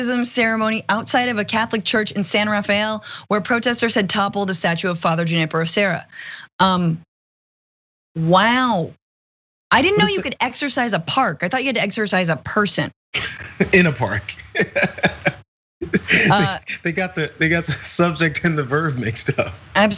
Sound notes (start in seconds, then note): 13.2 laugh